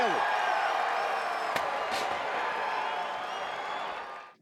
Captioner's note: crowd cheering